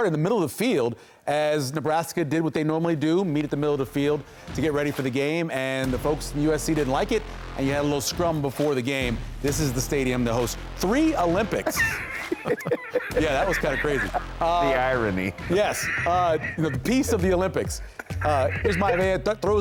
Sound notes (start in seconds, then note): 11.5 laughter